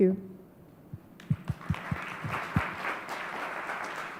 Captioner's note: clapping